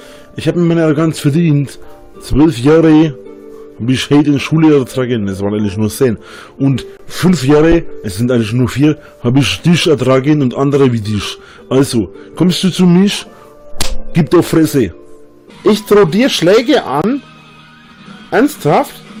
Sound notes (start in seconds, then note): 14.3 badly mimics a Turkish-German accent